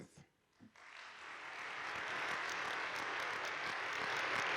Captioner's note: audience applauding